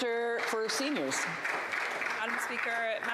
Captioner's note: applause